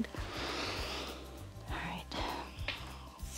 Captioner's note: inhales